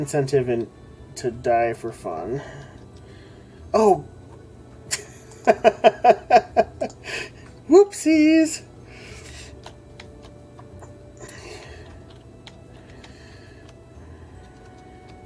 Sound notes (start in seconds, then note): 4.9 laughs